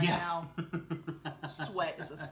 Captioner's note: laughing